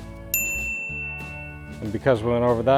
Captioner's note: bell rings